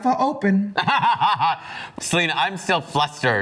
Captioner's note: laughs